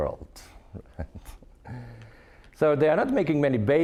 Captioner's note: chuckling